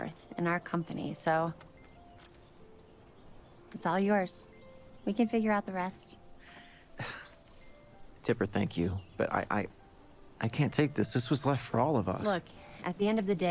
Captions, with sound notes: so... it's all yours. We can figure out the rest. [chuckles] Tipper, thank you, but I-I, I can't take ththis. This wasas left for all of us. Look, at the end of the day, you're the one